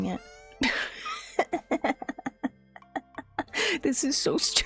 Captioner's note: weak wheeze into equally weak cackle